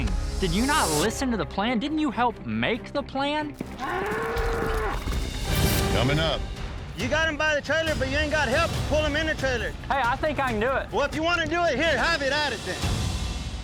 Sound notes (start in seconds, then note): 3.8 bull mooing wildly